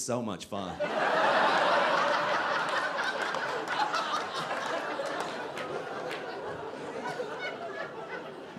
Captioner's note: audience laughing